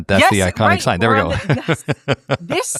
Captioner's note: laugh